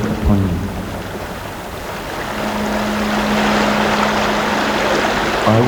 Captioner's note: running water continues